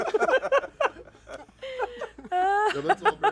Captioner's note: laughter